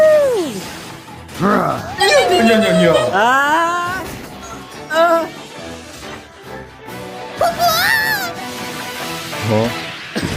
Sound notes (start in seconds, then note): 5.5 gasps